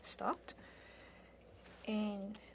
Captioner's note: speaking French